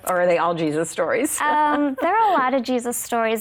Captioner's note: laughs